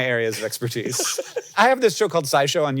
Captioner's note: Jason laughing